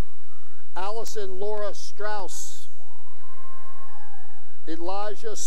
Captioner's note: cheering; cheering